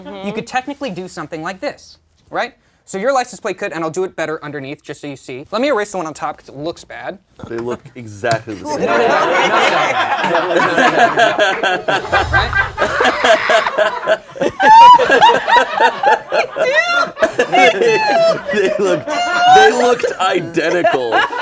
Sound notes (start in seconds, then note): 9.1 laughter; 10.8 laughs; 15.5 laughs